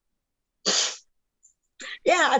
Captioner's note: sniffling